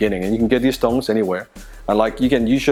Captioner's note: none